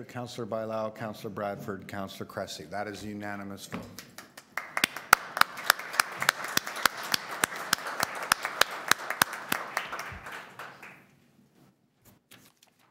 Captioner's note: applause